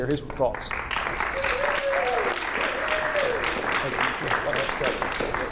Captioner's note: audience applauding